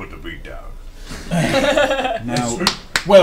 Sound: all laugh

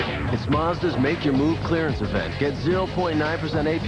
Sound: none

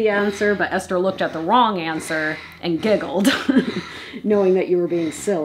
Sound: laughs

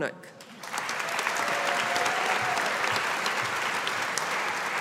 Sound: audience applauding

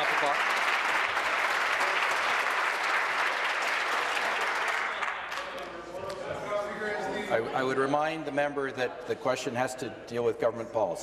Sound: applause

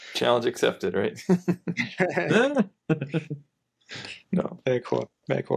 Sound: laughing

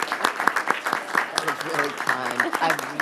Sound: applause

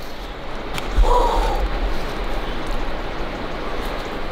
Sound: exhales

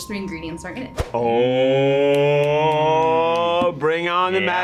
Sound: snapping

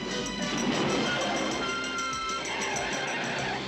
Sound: tires Screeching

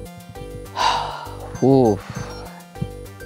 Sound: sighs

